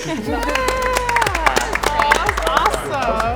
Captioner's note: all applauding